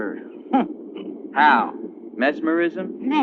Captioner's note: chuckling